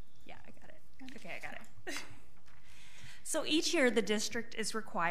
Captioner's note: laughing